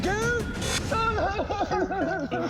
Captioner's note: fake crying